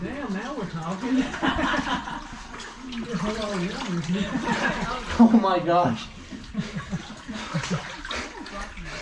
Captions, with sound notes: dang now we're talking! (more laughing) oh my gosh